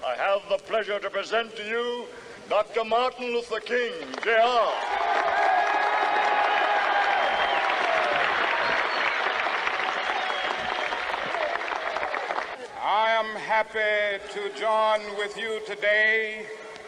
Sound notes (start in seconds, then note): 5.1 crowd cheering; 6.3 crowd applauding